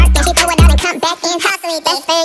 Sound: pop-pop-pop

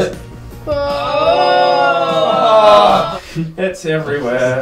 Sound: everyone groaning, music fades out; noises of agreement

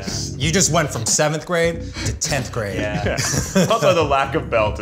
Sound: laughs

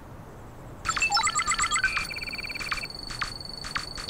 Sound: computer beeping

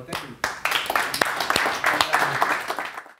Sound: applause

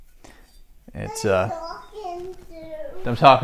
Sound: daughter asking who I'm talking

